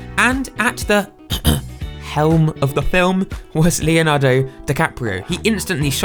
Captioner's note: ahem